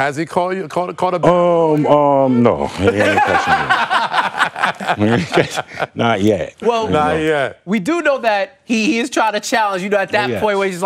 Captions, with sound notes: FROM OLD POPS OVER THERE. EVERY TIME YOU WANT TO TRY TO DUNK ON ME. [ LAUGHTER ] AND HAS HE CAUGHT IT? NO.